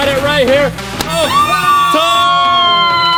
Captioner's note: cheers